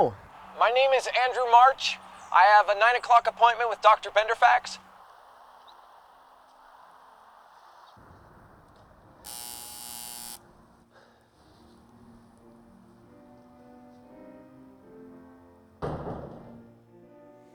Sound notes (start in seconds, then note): 9.2 door buzzer; 14.2 distant sleepy piano